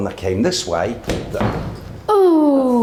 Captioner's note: thudding